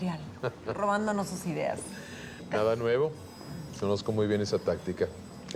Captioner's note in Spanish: Risas